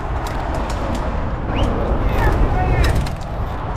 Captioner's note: whistle